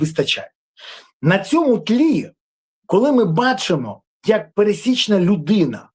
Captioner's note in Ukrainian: сопіння